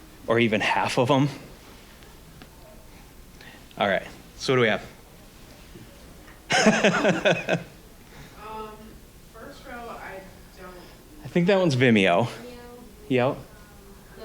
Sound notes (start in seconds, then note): 6.4 laughing